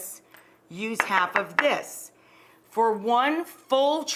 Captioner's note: bowl knocking